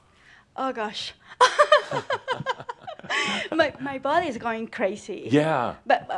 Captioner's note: she chuckles